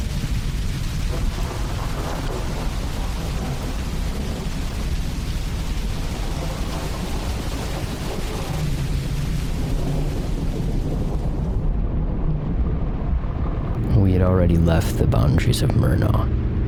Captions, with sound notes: [rain becomes muffled] [truck engine rumbling] 'We had already left the boundaries of Murnau.'